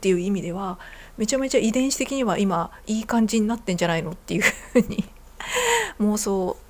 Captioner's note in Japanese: 笑い